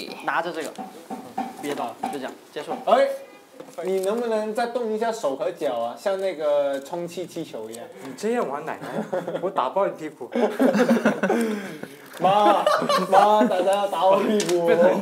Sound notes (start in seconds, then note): 10.4 laughing